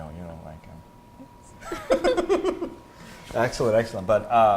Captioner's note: laughing